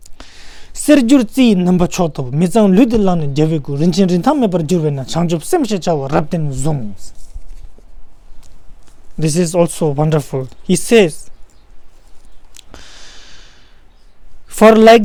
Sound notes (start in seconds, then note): 0.5 tibetan